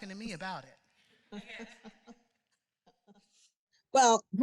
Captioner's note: laughter